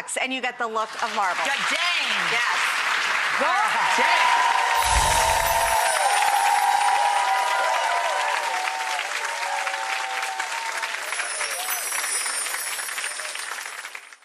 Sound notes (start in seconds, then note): 2.7 audience applause; 4.7 chime flourish